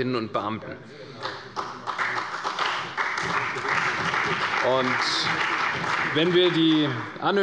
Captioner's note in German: Beifall bei der CDU und dem BÜNDNIS 90/DIE GRÜNEN